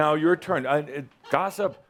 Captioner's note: someone giggles